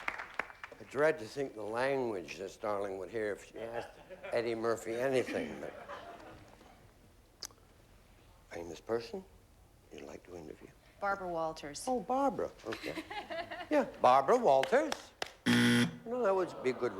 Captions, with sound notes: I DREAD TO THINK THE LANGUAGE THIS DARLING WOULD HEAR. IF SHE ASKED EDDIE MURPHY ANYTHING. FAMOUS PERSON YOU'D LIKE TO INTERVIEW. BARBARA WALTERS. OH, BARBARA. OK. YEAH. BARBARA WALTERS. [BUZZER] WELL, THAT WOULD BE A GOOD REVERSE.